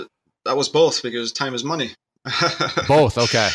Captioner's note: laughs